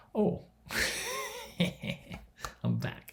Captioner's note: laughs